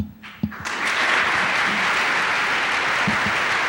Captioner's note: applause